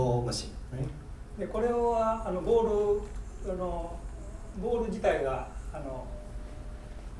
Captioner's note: speaking in foreign language